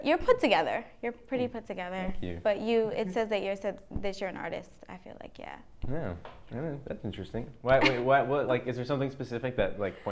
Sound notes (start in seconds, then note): 7.7 laughs